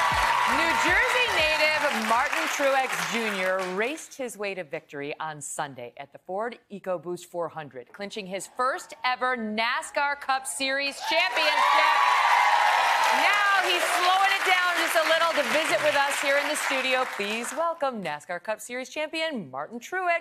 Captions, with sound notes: [ APPLAUSE ] >>> NEW JERSEY NATIVE MARTIN TRUEX JR. RACED HIS WAY TOIN TRUEX JR. RACED HIS WAY TO VICTORY ON SAND, AT THE FORD VICTORY ON SAND, AT THE FORD ECOBOOST 400, TO CLINCH HIS ECOBOOST 400, TO CLINCH HIS